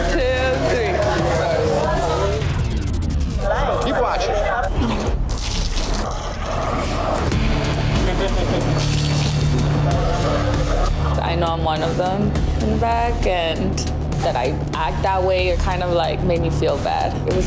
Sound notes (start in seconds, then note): 2.6 suspenseful music; 4.9 man barfing